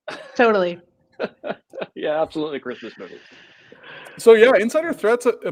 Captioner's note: laughs